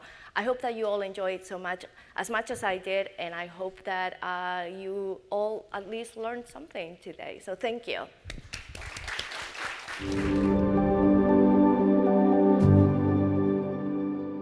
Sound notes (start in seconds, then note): 8.4 audience applaud; 11.6 calm music